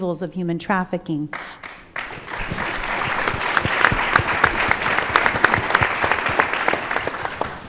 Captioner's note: applause